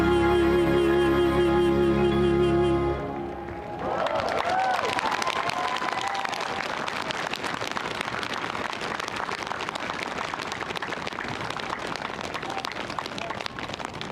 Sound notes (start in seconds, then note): 3.4 cheering; 7.7 applause